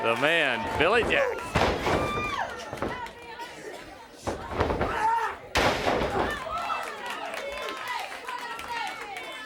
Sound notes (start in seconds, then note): 2.1 crowd cheering